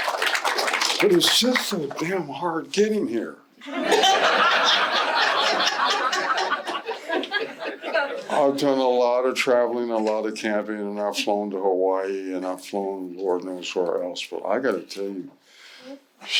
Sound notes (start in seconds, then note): 3.6 laughter